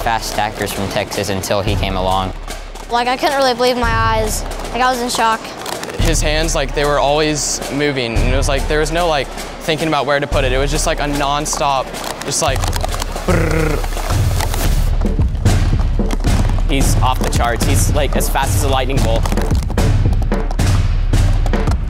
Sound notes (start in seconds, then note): 13.5 trilling; 14.4 drum beats; 19.4 drum beats